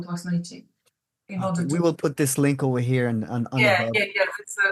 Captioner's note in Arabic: الروسية